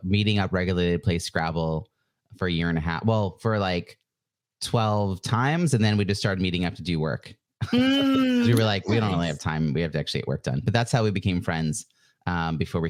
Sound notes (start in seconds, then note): 7.6 laughs